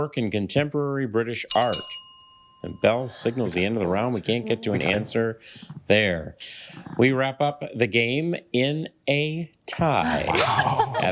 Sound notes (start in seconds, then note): 1.5 bell dings twice